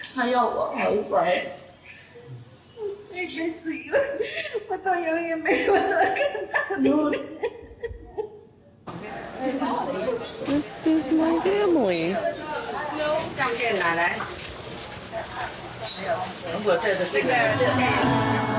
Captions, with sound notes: This is my family. [speaking in foreign language]